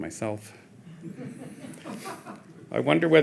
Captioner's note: audience chuckling